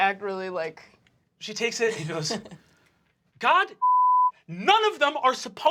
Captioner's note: beep